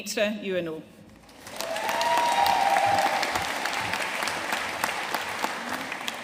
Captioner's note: audience cheering and applauding